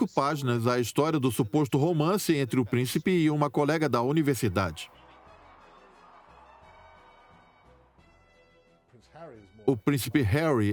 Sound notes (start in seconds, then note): 4.4 crowd cheering